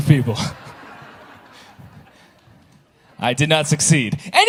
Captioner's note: audience laughing